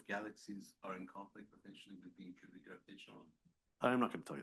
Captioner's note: murmuring